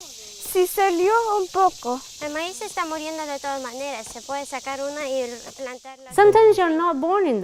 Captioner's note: speaking Foreign Language